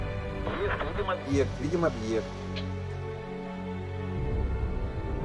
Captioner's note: man speaking in foreign language